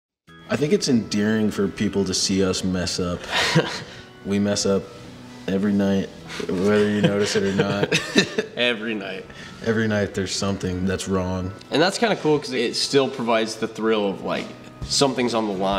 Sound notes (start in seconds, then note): 3.2 man laughs; 8.1 laughs